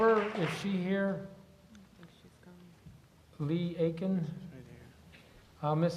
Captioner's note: applause